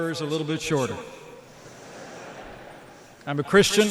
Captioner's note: laughter